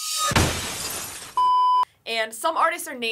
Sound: record scratches; glass shatters; test pattern beeps

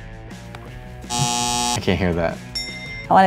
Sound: buzzer

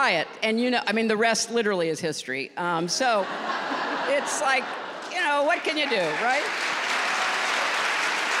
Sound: laughter; applause

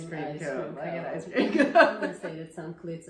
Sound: laughs

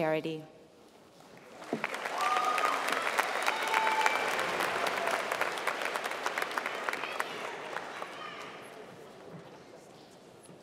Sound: applause

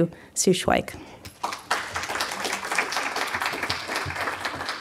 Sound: applause

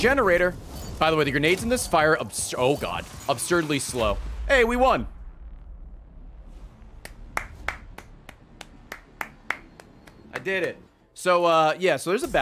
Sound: claps

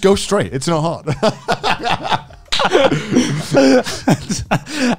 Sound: laughing

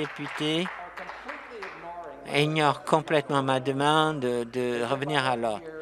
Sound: some Applause

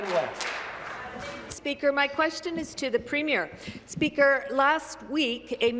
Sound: some Applause

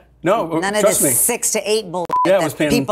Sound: beep noise

